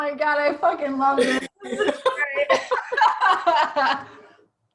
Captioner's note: both laughing